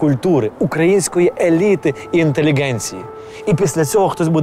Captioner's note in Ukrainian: звук повітряної тривоги